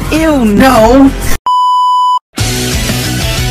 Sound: static sound beep

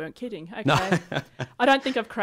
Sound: laughs

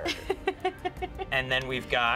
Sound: laughing

